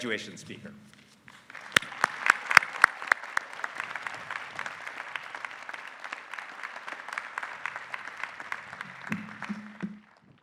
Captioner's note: applause